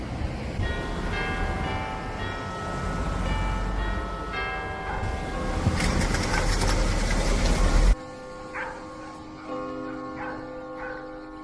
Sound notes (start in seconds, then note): 1.0 church bells ringing; 9.8 dog barking